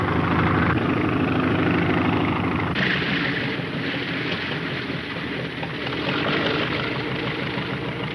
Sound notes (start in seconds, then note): 3.0 engine puttering